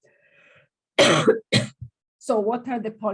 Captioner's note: coughs